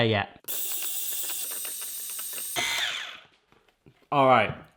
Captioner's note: whirring